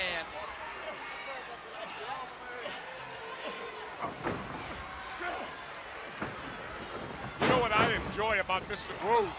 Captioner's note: crowd chatter